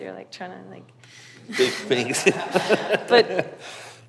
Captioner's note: laughs; audience laughs